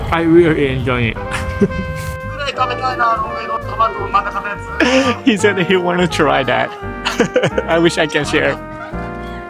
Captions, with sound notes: I really enjoy it. [THIEF SPEAKS IN JAPANESE] He said that he want to try that. [LAUGHS] I wish I can share.